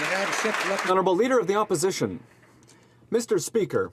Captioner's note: applause